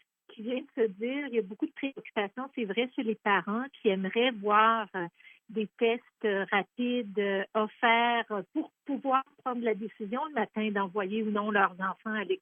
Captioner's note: speaking in French